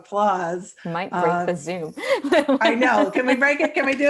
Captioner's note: laughs